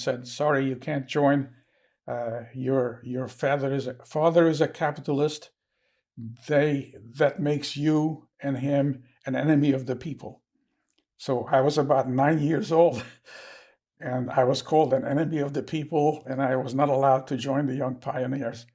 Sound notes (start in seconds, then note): 12.9 laughing